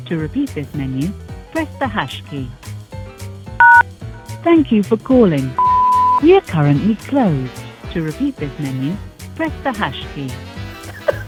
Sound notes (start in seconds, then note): 3.6 beep; 3.6 number beep; 10.9 laughing